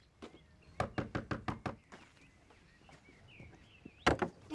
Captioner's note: Rob knocking